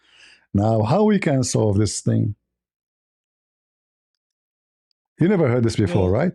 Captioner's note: Arabic